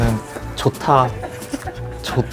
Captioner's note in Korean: 팀장님의 웃음소리